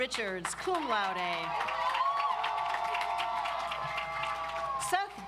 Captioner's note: audience applauds